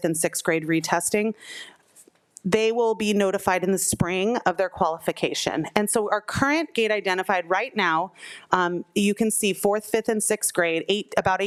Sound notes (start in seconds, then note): none